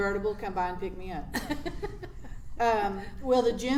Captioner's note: laughs